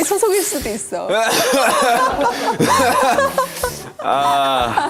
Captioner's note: cough...!